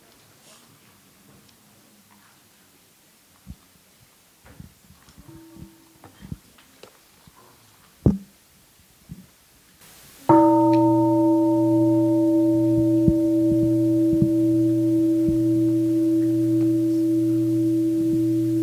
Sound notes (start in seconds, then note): 10.3 gong